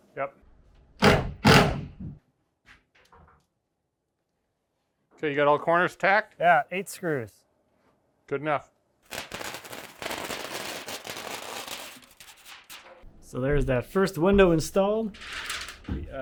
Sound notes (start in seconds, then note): 1.0 wall slamming; 9.0 tape crackling